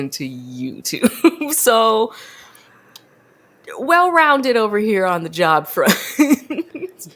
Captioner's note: laughs